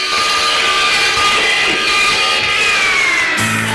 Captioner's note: saw buzzing